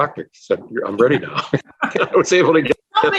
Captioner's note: laughing